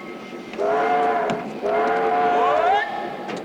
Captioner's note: train horn sound